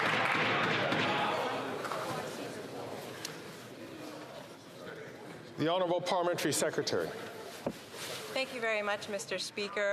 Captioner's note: some Applause